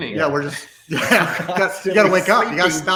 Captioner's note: laughs